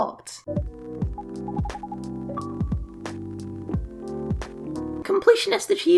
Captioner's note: bleep Bloop